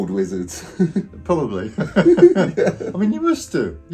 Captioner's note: both chuckling